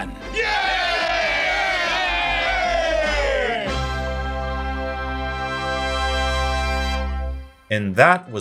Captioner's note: Autobots cheering